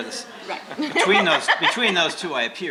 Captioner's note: laughs